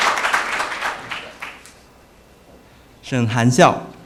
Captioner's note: applause